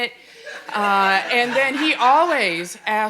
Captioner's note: audience laughing